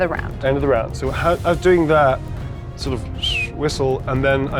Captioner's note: whistles